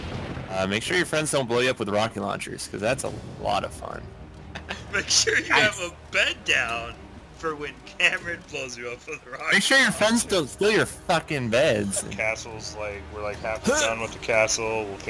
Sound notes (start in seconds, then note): 4.5 laughs